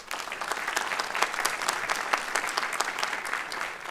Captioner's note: applause